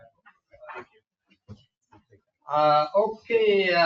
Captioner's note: board members murmuring